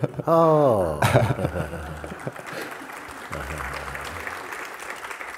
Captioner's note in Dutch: applaus